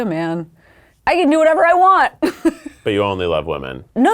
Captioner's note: laughs